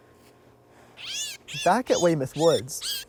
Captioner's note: birds chirps